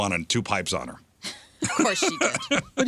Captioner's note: laughter